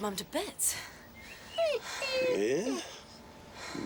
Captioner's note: wolf whines